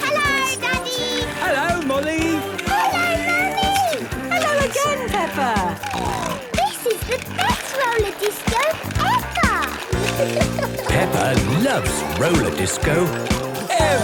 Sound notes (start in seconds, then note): 6.1 snorting